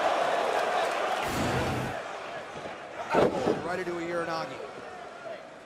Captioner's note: crowd cheering